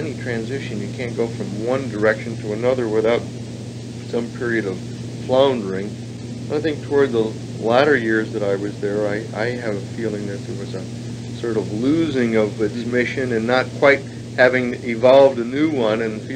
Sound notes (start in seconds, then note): none